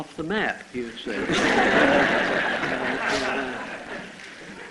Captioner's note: laughter